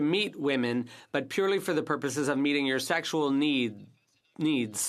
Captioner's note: speaking in French